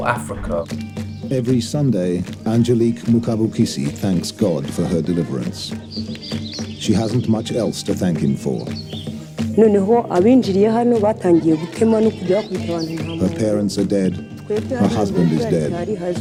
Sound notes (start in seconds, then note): 0.0 soundbite of archived recording; 10.8 non-English language spoken